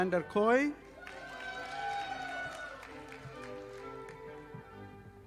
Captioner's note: audience applauding